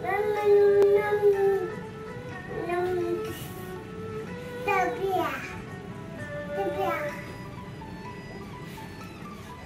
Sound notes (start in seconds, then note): 0.7 babbling